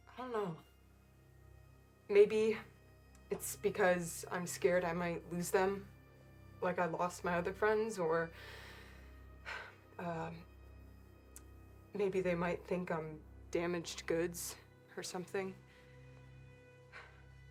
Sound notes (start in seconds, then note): 9.4 sighs